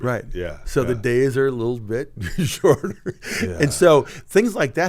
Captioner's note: chuckles